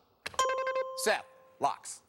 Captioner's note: buzzer rings